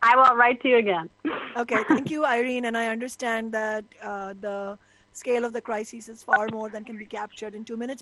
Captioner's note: laughter